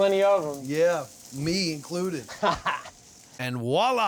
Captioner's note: laughing